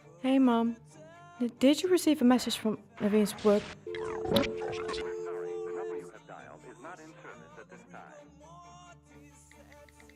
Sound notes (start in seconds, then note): 3.9 static noises